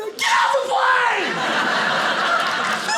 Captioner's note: audience laughing